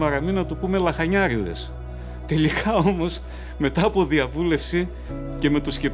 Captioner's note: heavy breathers